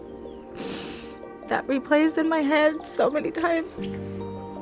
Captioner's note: sniffs